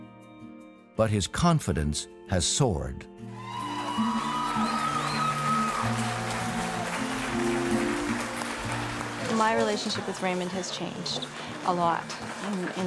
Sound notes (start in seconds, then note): 3.3 audience cheering; 4.1 gentle music